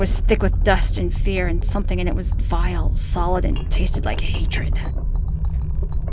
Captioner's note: whispers fade out